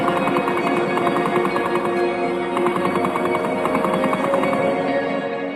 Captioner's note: artillery barrage fires